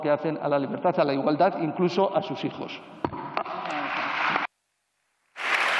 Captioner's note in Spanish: Aplausos